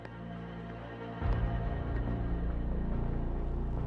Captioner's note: footsteps